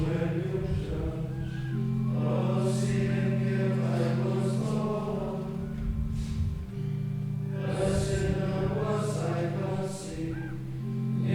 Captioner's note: chuckles